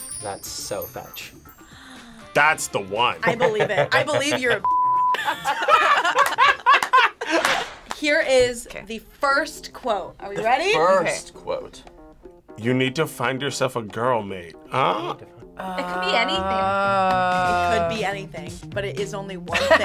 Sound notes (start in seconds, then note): 5.3 group laughs